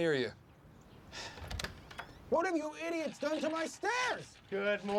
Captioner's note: door opens